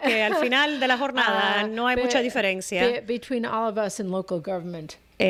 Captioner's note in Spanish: Hablando ingl\s